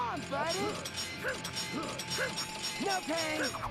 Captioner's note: grunting